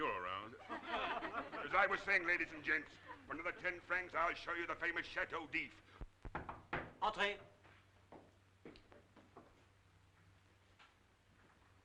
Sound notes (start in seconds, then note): 0.6 crowd laughing; 6.8 knuckles rapping